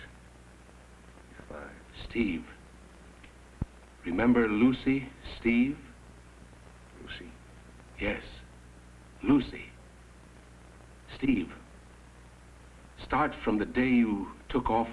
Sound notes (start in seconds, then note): none